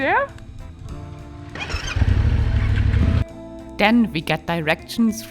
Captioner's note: motorcycle revving